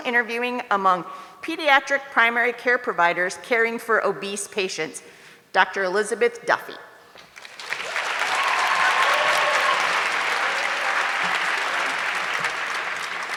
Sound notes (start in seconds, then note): 7.2 audience clapping